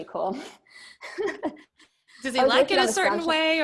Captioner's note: both laughing